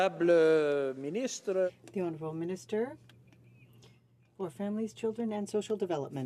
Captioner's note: some Applause